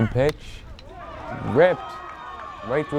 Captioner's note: bat cracks